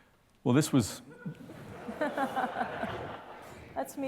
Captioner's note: laughter